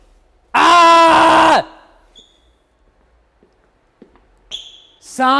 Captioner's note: screams; feet tapping